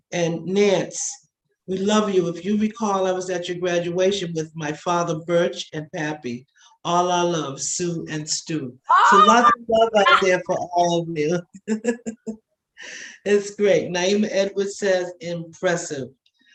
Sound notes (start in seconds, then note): 11.6 laughing